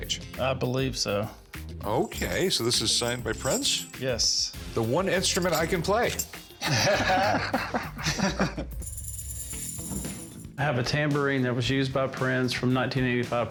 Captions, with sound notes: - I believe so. - Okay, so this is signed by Prince? - Yes. - The one instrument I can play. [both laughing] [tambourine jingles] - I have a tambourine that was used by Prince from the 1985